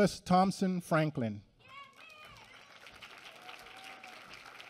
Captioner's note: applause